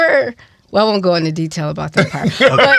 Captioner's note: laughs